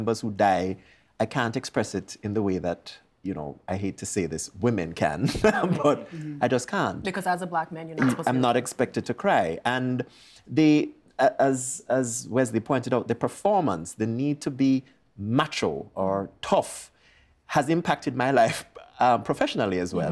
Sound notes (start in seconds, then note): 5.3 laughing